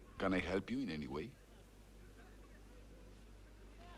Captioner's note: none